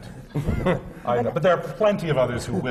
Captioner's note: laughter